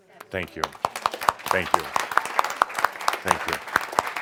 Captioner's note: audience applause